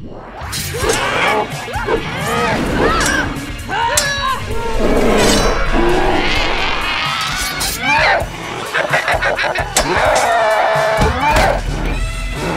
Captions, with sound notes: [swords clash] Ah! Augh! [effort grunting] [roars] Ahhhhh! [evil laughter] [metal clashes] [screams]